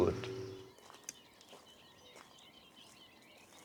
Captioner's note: footsteps, birdsong